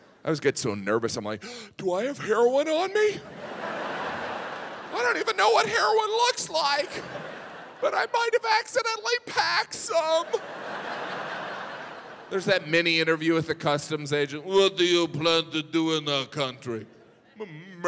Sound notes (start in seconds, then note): 1.4 gasps; 3.2 audience laughs; 6.8 audience chuckles; 9.8 audience laughs